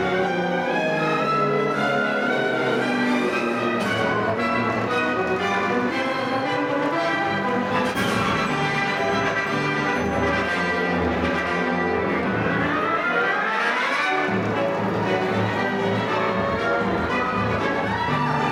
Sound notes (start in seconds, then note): 4.8 upbeat music; 9.9 crowd cheering; 15.4 audience cheering